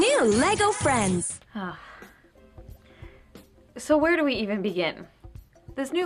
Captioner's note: sigh